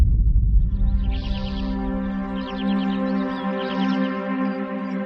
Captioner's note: birds chirping